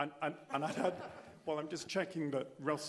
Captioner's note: laughter